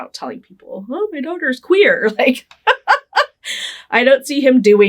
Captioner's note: laughing